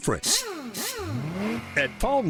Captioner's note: whirring